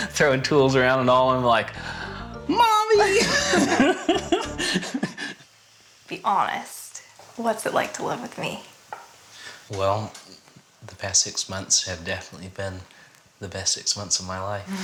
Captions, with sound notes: Throwing tools around and all. I'm like, Mommy! [LAUGHTER] Be honest. What's it like to live with me? Well, the past six months have definitely been the best six months of my life.